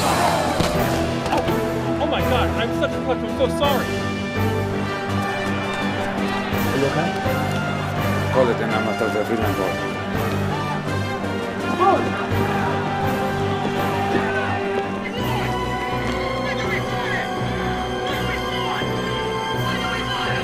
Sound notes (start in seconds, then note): 6.5 voiceover; 15.8 crowd